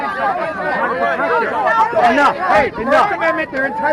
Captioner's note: confused shouting